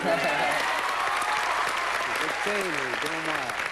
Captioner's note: applause